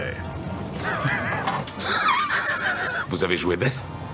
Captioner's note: laughs